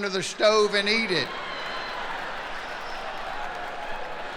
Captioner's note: laughing